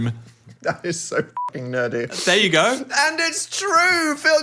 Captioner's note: beep